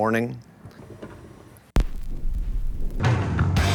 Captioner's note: needle drops on record; loud rock music plays